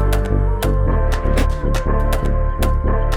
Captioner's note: door latches